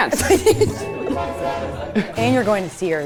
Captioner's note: horn honking